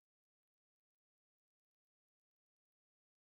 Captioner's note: none